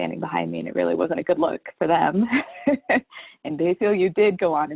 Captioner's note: chuckles